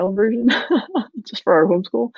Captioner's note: laughs